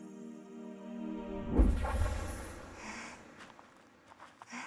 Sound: sound of magic

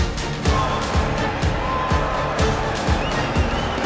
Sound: chants

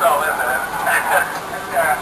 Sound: chuckle

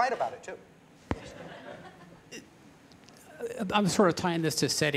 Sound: laughter

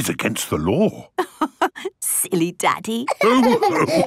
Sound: laughing

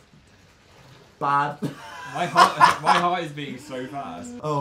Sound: laughs

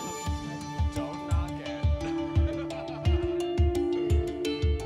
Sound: laughs

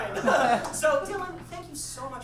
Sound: audience laughs

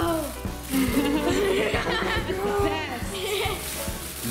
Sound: laughing

